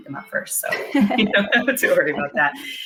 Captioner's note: laughter